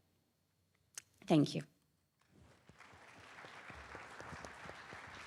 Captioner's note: audience clapping